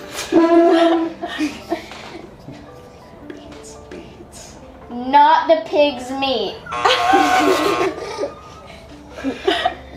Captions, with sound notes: - Nothing beats beets. - Not the pig's meat? (buzzer buzzing) (laughing)